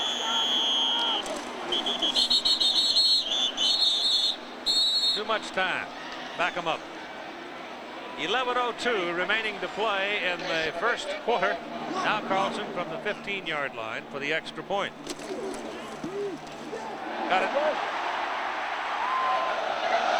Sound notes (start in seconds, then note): 5.0 whistle blowing